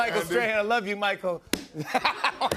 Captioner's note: laughter